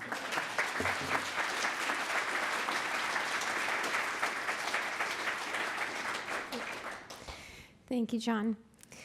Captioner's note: applause